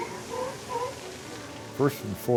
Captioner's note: seal barking